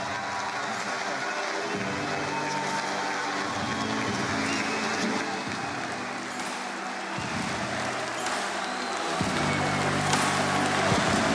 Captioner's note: cheering